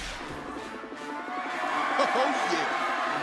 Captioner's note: cheers and applause